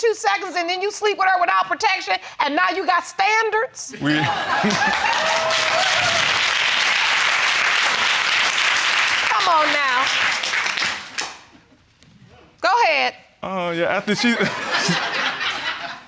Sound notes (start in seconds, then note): 4.1 audience applauding; 14.0 all laughing